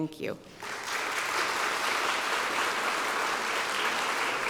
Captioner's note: audience applauding